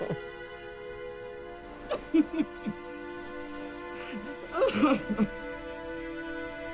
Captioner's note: Thomas sobbing